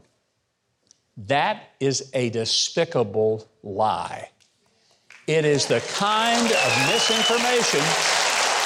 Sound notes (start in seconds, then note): 5.4 audience applauding